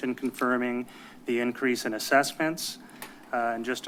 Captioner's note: none